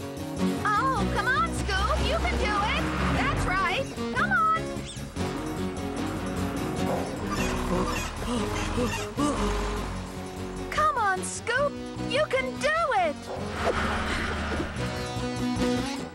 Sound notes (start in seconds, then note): 6.4 panting